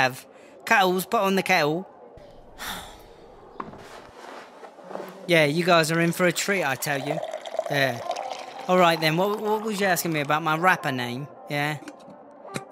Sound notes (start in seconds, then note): 2.5 sighs